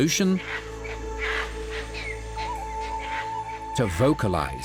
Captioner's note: monkey calls